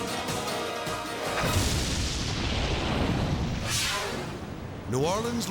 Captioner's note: screen whooshes; explosion booms